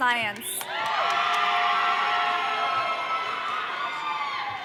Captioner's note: audience cheering